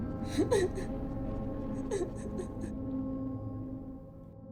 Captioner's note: cat crying